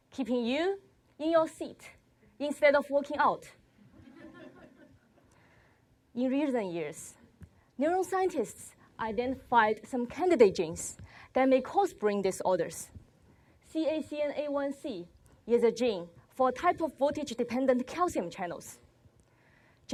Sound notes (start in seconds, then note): 3.8 laughter